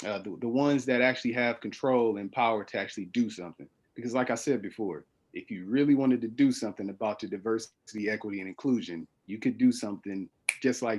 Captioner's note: snaps fingers